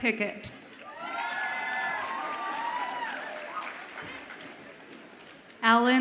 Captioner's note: audience applauds and cheers